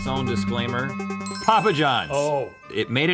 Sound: ding

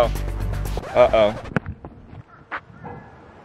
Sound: record scratch

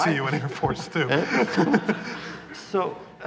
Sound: laughter

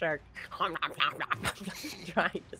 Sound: DM makes nonsense noises

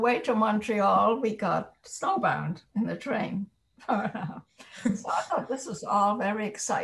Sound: laughs

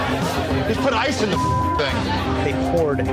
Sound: beeping

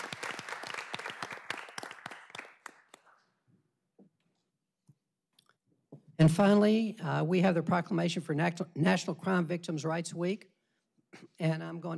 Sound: applause

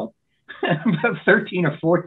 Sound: laughs

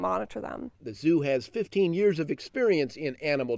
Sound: voiceover

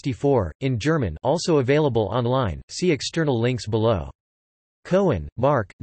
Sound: in German

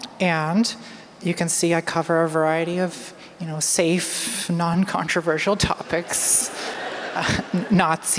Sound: laughter

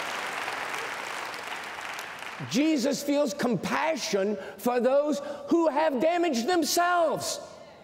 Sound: cheers and applause

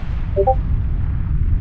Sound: Discord notification

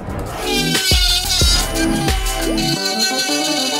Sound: drilling sound

